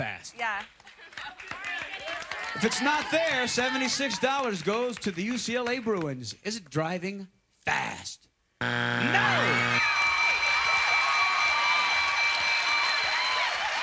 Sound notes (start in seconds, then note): 8.6 buzzer; 9.7 applause, cheering